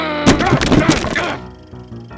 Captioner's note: grumbles; groans